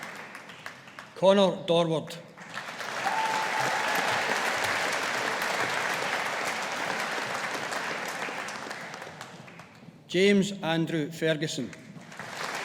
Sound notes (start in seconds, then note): 2.4 audience applauding; 12.0 audience applauding